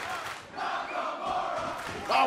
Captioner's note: fans chanting